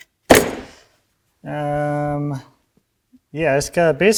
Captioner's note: board snaps